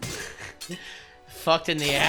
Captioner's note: soft Laughter